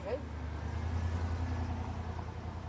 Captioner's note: vehicle driving